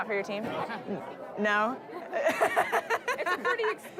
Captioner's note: laughter